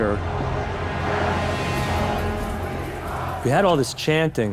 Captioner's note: chanting